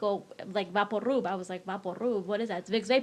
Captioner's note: speaks in foreign language